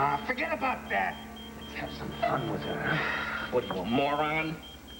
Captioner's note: pager beeps